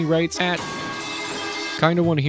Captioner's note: scuffed Metal Sounds